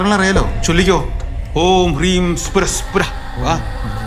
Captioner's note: chanting